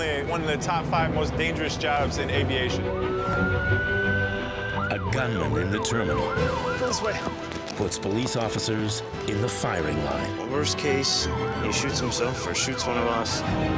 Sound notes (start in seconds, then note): 2.7 siren wailing